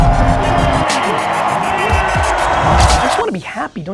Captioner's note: crowd cheers